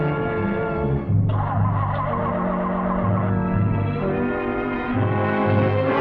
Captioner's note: engine revving; ominous music intensifying